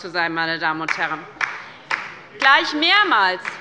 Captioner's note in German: Beifall bei der LINKEN